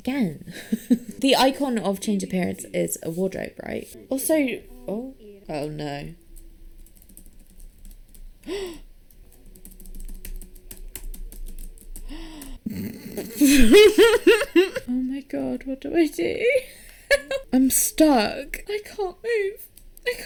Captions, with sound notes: again. [laughs] The icon of 'Change Appearance' is a wardrobe, right? Also... oh. Oh no. [gasps] [bursts into laughter] Oh my God. What do I do? I'm stuck! I can't move.